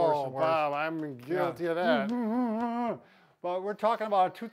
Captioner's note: groans